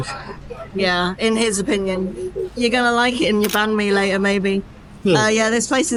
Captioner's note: laughs